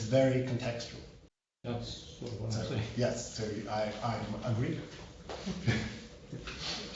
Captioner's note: laughter